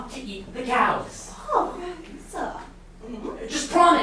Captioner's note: sailors speaking grammelot